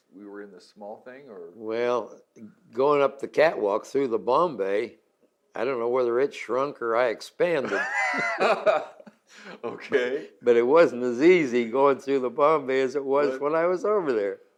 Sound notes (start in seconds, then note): 7.6 both laugh